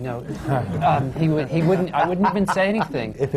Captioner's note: laughter